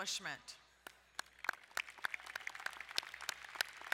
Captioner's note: applauding